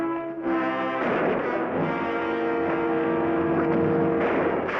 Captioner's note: gunshot bangs